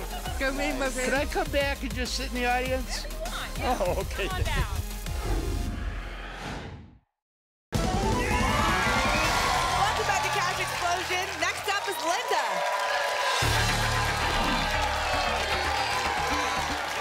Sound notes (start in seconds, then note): 5.0 whoosh; 8.8 applause and cheering